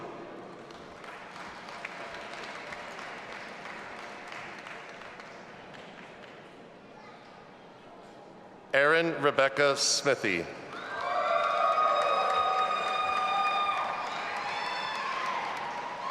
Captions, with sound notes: (audience applauding and cheering) Erin Rebekah Smithey. (audience applauding and cheering)